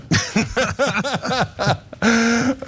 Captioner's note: laugh